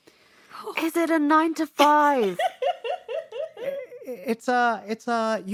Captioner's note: laughter